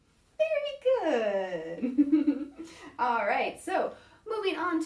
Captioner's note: laughs